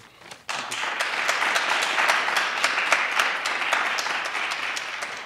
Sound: audience applauding

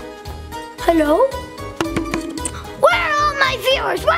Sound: camera tapping

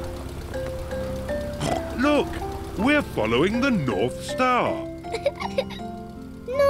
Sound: snorts; giggles

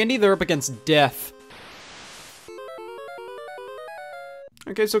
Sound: video game beeps

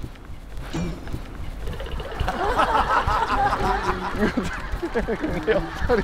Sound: rushing

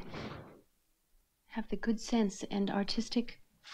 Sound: door shuttering

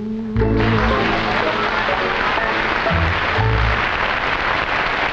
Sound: audience applauding

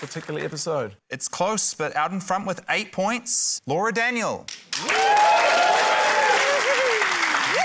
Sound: cheering, applause

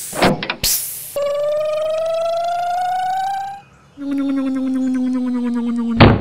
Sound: click; hiss; electric motor hum; thud

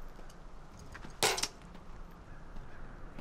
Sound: thud

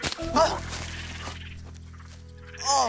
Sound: boys gasp

